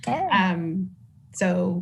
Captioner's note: laughs